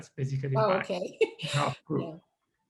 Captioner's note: laughs